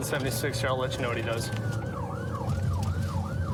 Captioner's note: siren blaring